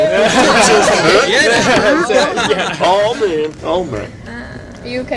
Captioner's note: laughter